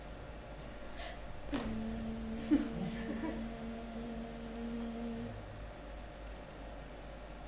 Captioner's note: makes a buzzing sound